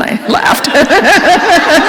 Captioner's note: laughter